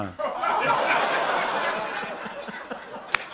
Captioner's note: laughter